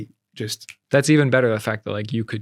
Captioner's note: snaps